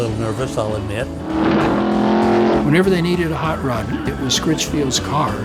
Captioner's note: pat